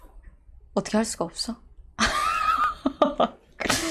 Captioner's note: laughing